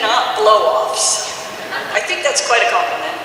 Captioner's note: audience laughs